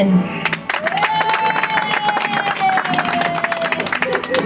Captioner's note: audience applauds